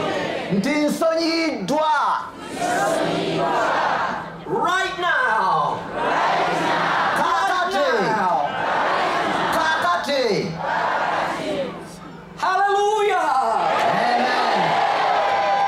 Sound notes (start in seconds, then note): 2.0 audience repeats in local language; 5.1 audience repeats in english; 8.2 audience repeats in english; 10.1 audience repeats in local language; 12.7 audience responds shouting : amen!